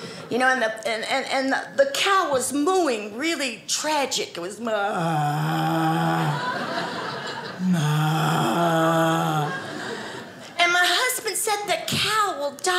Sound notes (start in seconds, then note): 7.6 moos grotesquely